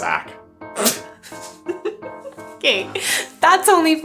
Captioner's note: laughs